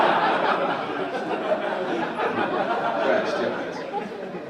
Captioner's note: audience laugh